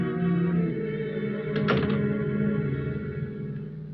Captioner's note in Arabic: الباب يُغلق